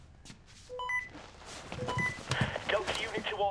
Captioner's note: walkie talkie